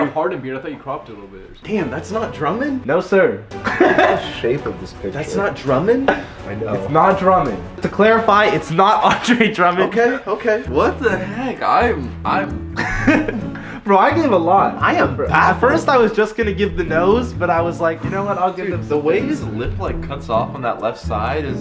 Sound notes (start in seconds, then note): 3.6 laughter